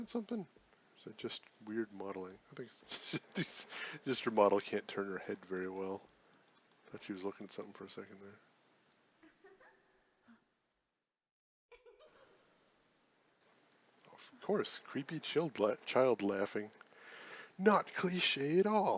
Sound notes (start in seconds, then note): 2.8 laughs